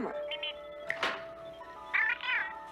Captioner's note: Steve Trevor snaps his Fingers